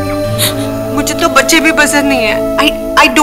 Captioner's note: Sobbing